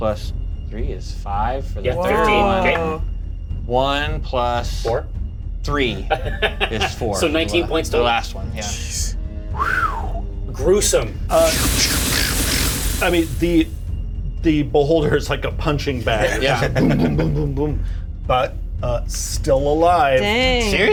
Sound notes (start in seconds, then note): 9.4 whistles; 11.4 static crackles